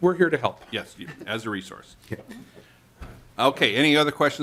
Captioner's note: laughter